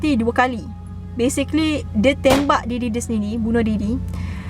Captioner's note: gun pop sound